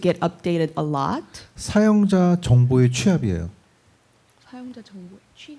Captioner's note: speaking korean